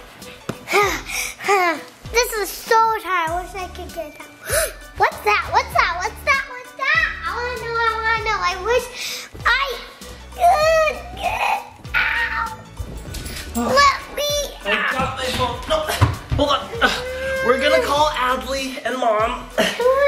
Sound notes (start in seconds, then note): 4.4 gasps; 10.4 grunts